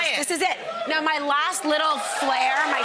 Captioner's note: audience whoops